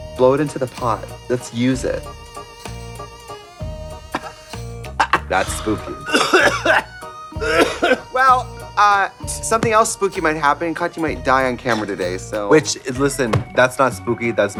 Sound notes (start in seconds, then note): 4.9 Trixie chuckling